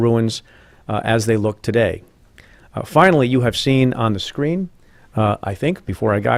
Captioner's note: none